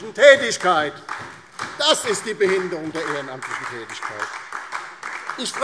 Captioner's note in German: Beifall DIE LINKE und SPD